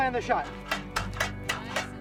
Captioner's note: metal clicking